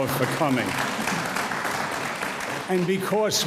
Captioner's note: audience applauds